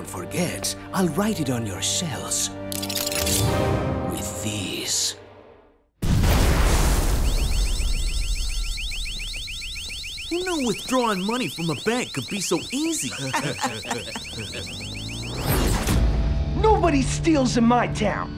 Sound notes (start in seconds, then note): 12.6 chuckling